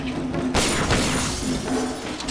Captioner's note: gunshots